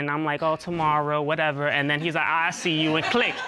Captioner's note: in high-pitched voice